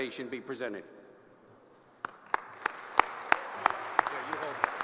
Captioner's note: applause